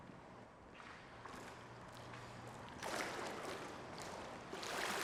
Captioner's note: water splashes